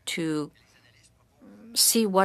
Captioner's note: speaking french